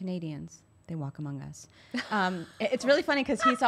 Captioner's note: laughs